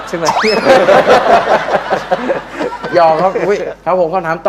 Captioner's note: laughing